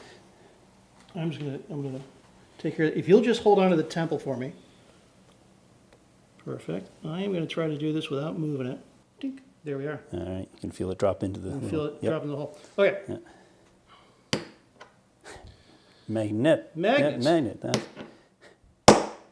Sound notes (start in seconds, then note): 14.3 hammer taps